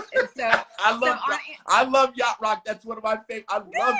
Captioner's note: laughs